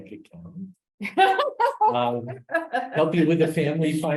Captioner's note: laughs